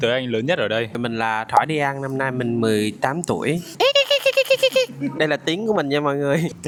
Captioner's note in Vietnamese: tiếng cười